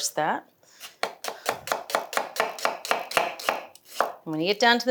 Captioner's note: knife chopping